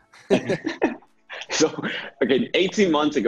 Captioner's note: speakers laughing